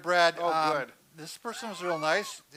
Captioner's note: laughs